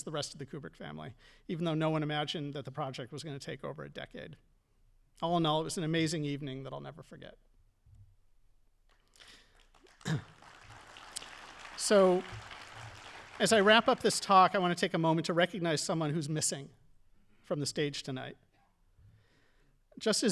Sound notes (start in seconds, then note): 9.1 audience applauding